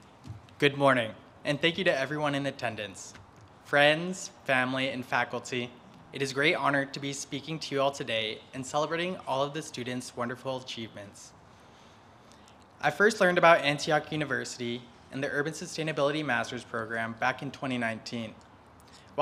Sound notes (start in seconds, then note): none